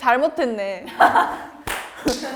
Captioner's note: laughing